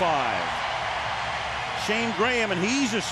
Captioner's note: crowd cheering